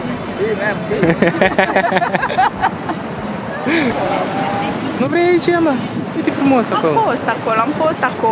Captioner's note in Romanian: Râsete